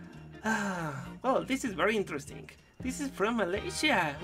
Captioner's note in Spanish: suspiro